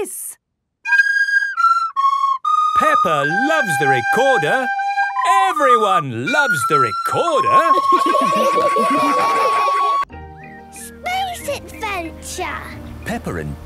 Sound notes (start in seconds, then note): 0.2 playing theme song; 7.7 laughter